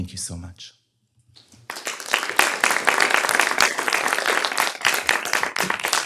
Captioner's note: applause